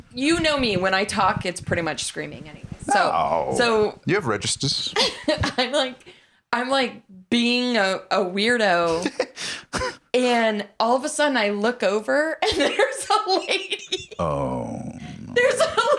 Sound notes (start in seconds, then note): 8.9 laughs; 12.6 laughs